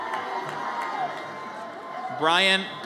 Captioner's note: audience cheers